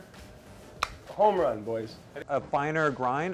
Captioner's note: clicking